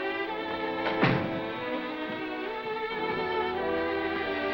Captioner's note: door shuts